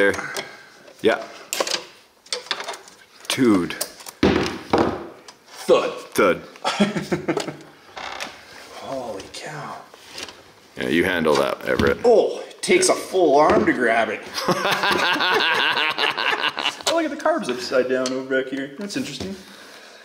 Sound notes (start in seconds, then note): 4.2 wire cutter thuds; 6.6 laughs; 14.3 laughs